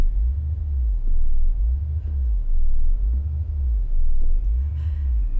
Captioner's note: computers pulsing ominously